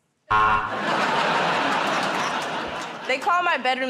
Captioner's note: buzzer